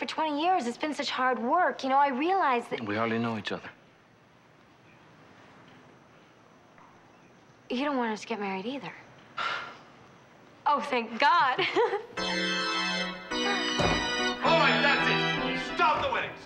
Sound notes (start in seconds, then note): 9.4 sighs; 11.6 laughing